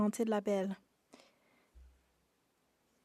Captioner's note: speaking French